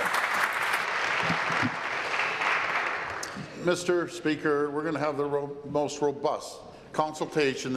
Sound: applause

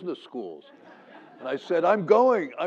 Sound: laugh

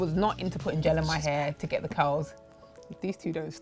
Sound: whispers

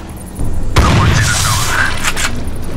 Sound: bang

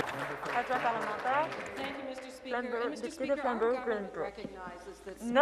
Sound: some Applause

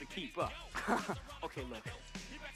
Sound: neourvs chuckle

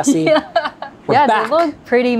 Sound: laughs

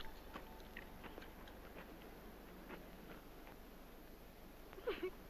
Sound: giggling

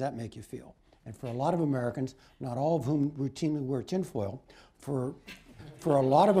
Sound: laughter

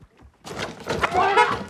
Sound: car honks

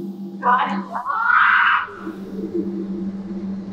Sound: moaning; actor shrieking

